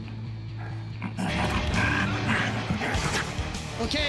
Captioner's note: grunting